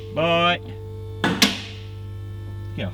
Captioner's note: car lifter clicks